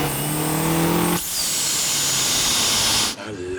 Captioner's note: engine whistles